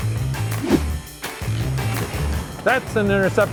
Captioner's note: bean bag swooshes